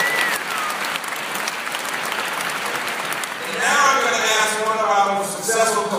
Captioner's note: applause